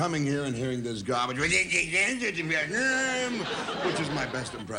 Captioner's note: angry gibberish